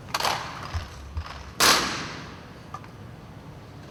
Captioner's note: gunfire